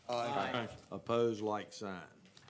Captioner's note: chorus of ayes